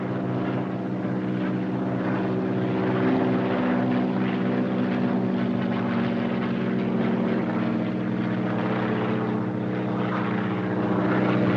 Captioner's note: aircraft rumbling